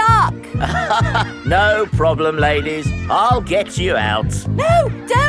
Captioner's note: chuckles